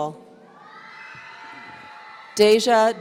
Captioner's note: audience cheering